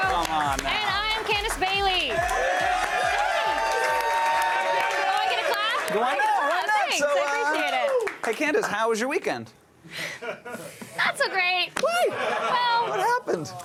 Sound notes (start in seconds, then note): 0.0 applause; 9.2 applause